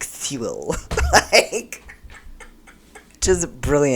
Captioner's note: laughter